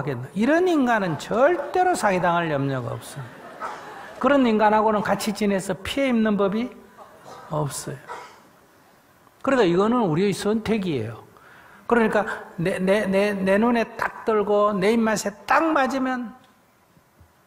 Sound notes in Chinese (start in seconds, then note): 2.9 听众 笑